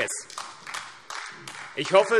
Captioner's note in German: Beifall AfD